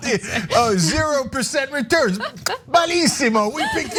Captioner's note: laugh